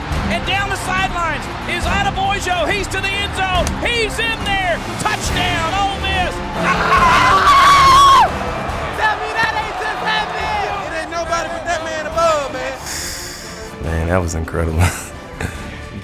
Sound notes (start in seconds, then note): 6.3 yelling; 12.8 exhaling